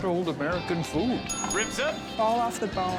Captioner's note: bell dings